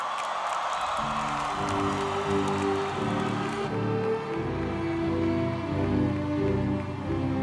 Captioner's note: applause